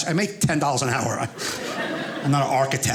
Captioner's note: audience laughing